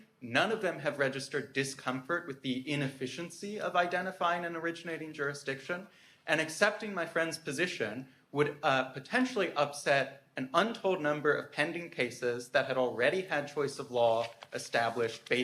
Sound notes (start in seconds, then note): none